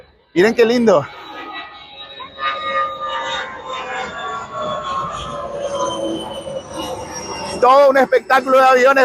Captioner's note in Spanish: sonido de avión